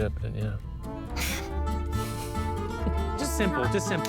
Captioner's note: chuckles